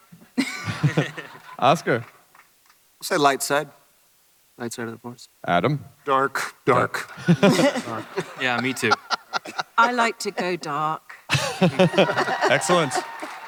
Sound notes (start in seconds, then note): 0.4 chuckles; 7.0 audience chuckles; 11.2 chuckles